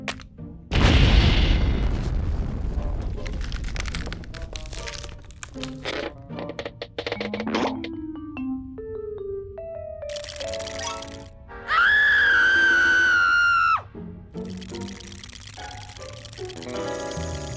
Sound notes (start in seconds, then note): 10.1 teeth chattering; 11.6 screams; 14.5 shivering